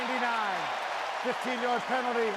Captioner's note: cheering